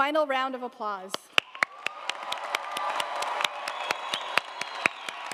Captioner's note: audience applauding